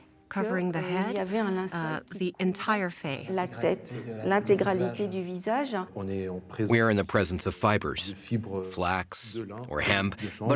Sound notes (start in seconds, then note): 2.9 all speaking French